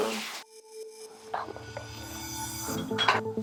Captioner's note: whisper